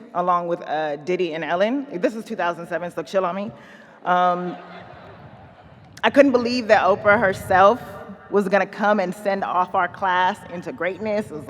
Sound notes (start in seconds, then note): 4.3 audience laughing